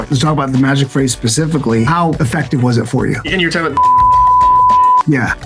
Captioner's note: beep